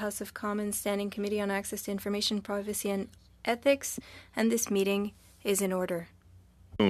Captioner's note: speaking French